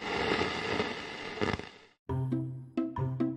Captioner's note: tv static